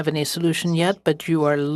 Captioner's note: speaking French